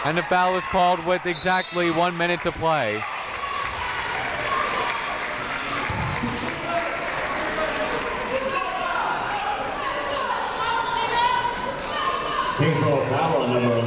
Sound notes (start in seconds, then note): 2.2 crowd applauding; 6.5 people shouting in the crowd